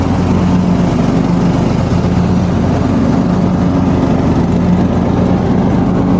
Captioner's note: engine revving